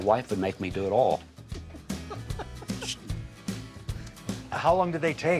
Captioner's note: laughing